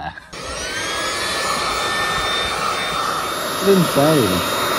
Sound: Looftlighter blowing

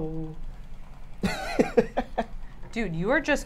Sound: laughs

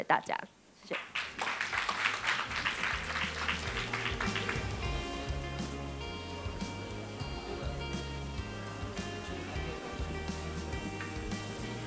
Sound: applause

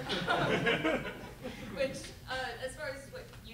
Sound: laughter

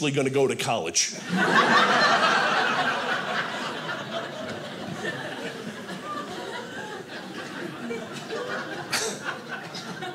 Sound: audience laughing

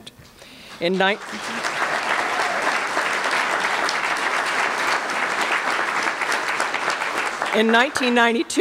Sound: applause

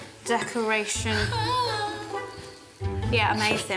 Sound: McGonnagall hums

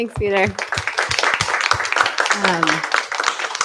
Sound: applause

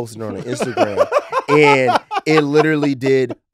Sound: laughs

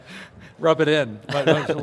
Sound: laughter; laughter continues

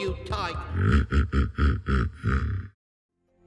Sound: chuckles

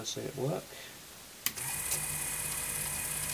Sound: quiet motor noise

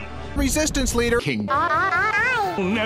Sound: pitch climbing

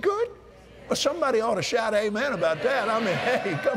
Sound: cheers & Applause

